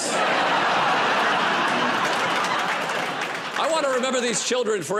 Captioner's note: laughter